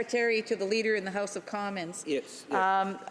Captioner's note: speaking French